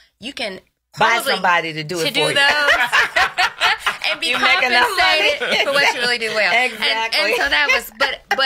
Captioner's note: laughs